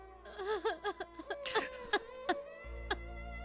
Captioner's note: crying